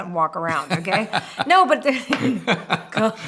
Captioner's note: laughter